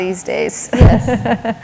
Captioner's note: laughter